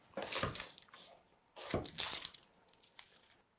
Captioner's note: shallot crunching